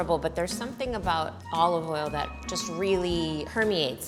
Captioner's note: none